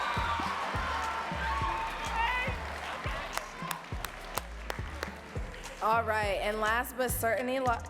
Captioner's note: audience cheering and clapping